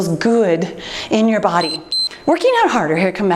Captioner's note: timer beeps